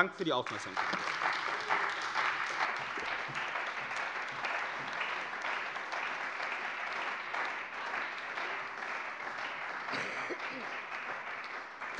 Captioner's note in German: Beifall bei der CDU und dem BÜNDNIS 90/DIE GRÜNEN